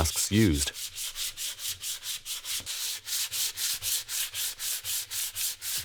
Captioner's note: sandpaper scrapping